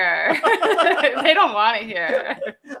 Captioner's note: laughing